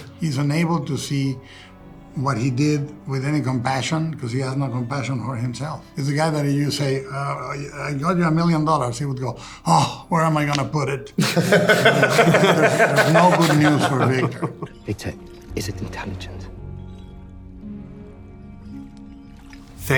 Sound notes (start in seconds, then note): 11.2 Oscar and Jacob laughing; 17.0 gentle music